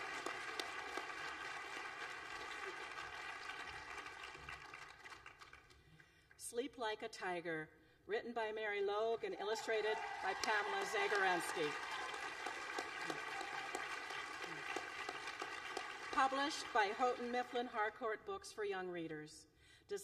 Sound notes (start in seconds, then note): 15.3 applause